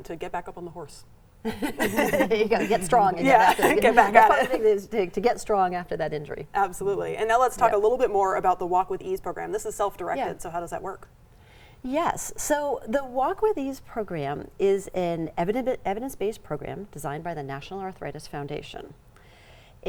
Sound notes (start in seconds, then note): 1.4 all laughing